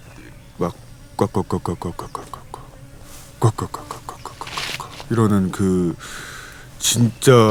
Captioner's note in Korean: 새소리 흉내